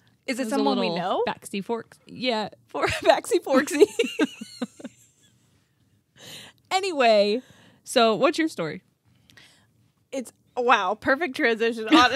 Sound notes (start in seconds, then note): 3.5 laughing